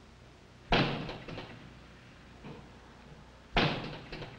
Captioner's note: gun banging